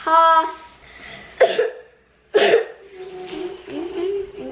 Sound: coughing

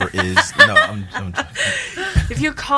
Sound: laughing

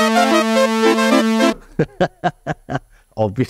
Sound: laughs

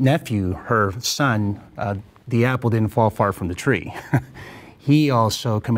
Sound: chuckles

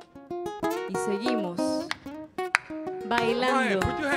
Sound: speaks in Spanish

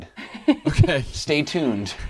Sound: laughing

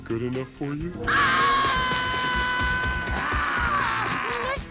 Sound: screaming

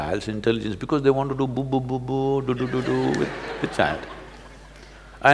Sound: laughter

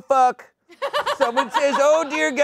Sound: laughter

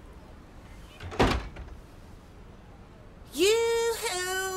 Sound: door shuts

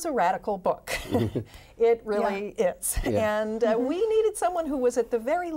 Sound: laughs

